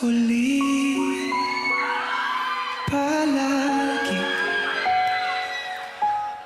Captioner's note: audience cheering